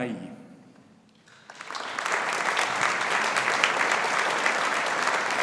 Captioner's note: audience applauding